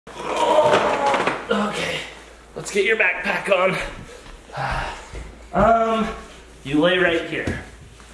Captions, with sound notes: (grunting) - Okay, let's get your backpack on. Um, you lay right here.